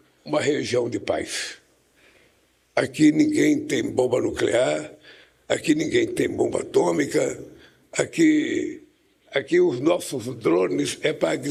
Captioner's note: Lula speech in Portuguese